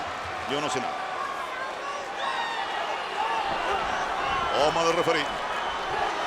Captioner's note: applause